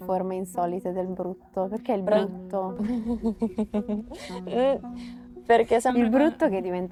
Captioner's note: laughs